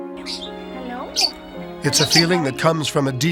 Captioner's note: bird squawking